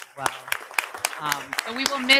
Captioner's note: audience applauding